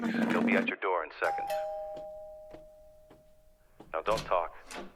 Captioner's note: doorbell rings